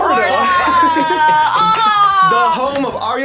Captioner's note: laughs; cheers and applauds